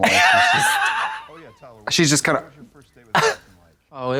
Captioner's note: hee-hees